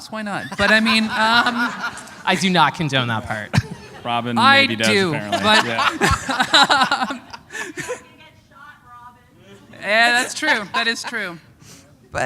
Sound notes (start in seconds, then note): 2.0 laughter